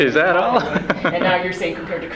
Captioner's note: laughs